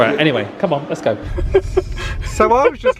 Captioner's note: laughing